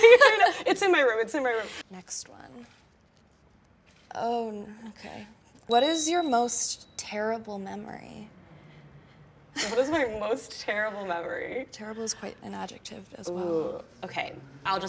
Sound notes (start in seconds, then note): 0.0 both laughs genuinely; 5.7 bells ringing; 9.3 laughs nervously